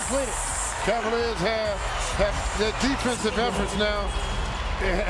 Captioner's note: cheers and applause